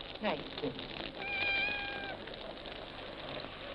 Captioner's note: cat meowing